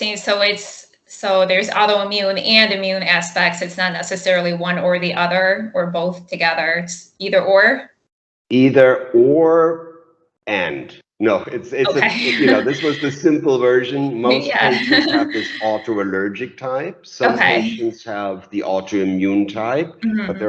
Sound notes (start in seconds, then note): 11.8 laughs